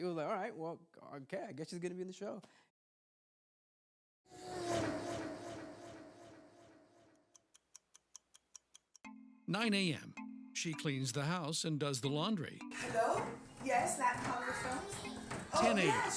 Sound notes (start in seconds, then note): 4.3 sound of car speeding past; 7.2 clock ticking